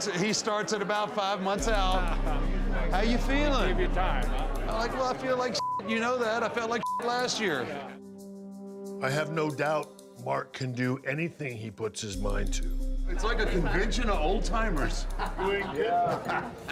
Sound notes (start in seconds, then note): 5.5 beep